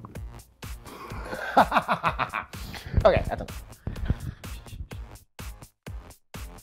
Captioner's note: laughs